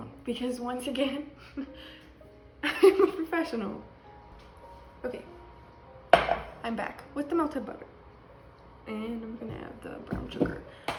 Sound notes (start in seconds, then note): 1.5 laughs; 6.1 pan hitting counter